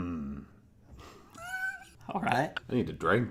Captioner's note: laughter